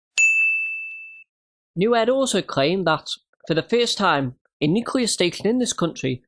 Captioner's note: ding